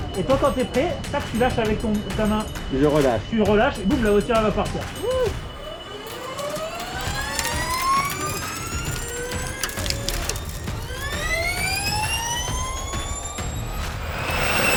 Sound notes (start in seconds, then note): 5.4 electric motor sound